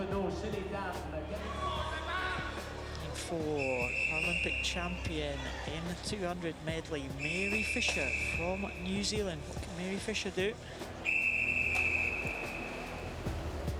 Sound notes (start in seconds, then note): 11.0 whistle